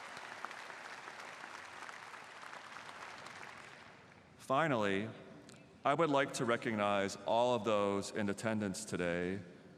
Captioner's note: applause